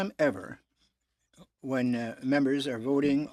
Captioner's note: speaking French